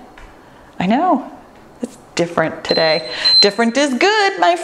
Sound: timer beeps

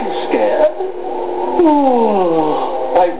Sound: yawn

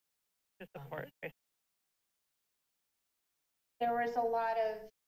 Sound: speaks faintly

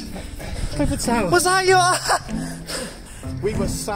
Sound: laughter

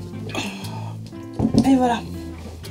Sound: sigh

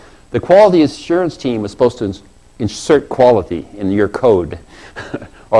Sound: laugh

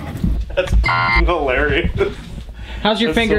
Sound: cartoon loud bell; beep

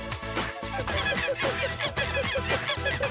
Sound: monkey cries

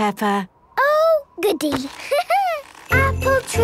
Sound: laughing

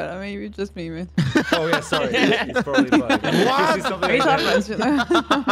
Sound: laughs; everybody laughing

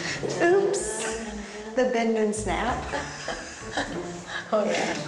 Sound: chuckles; chuckles

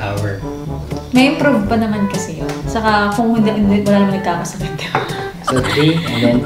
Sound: sarcastic

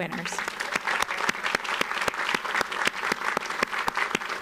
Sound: audience applauds

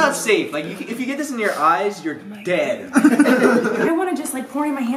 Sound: laughter

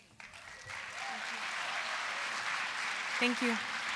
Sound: applause

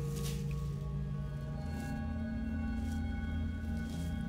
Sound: leaves rustling

